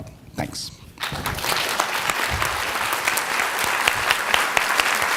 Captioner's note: audience applauding